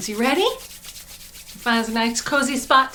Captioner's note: rubbing hands